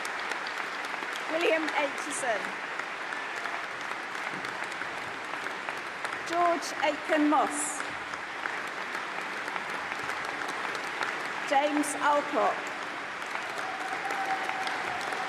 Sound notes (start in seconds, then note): 3.8 applause; 10.5 applause